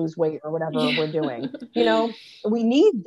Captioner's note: laughing